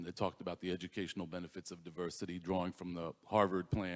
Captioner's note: none